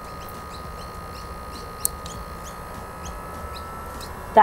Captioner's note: fan buzzing